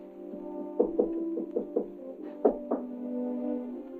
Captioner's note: knocking on door